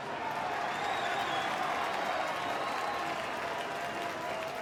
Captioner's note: crowd cheers and claps